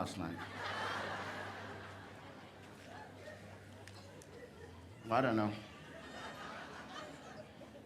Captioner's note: laughter